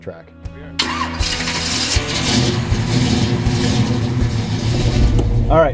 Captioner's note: engine revs as car starts